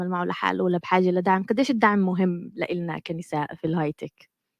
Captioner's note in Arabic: لغة أجنبية